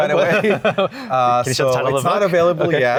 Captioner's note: people laughing